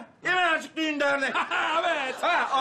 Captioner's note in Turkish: Gülme sesi